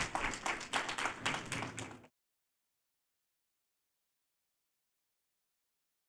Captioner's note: applause